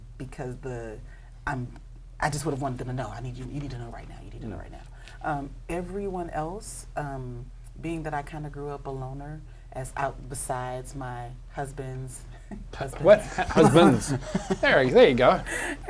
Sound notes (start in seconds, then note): 13.1 giggles; 15.7 chuckles